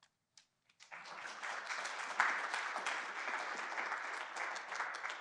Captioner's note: applause